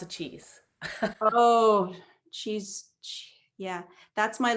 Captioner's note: laughs